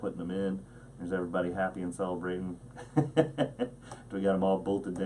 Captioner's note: laughs